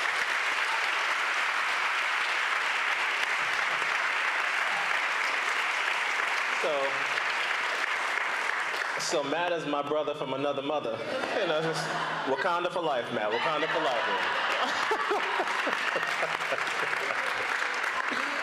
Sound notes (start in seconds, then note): 10.3 applause